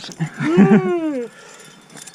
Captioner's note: yawn